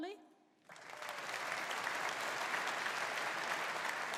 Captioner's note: audience applauding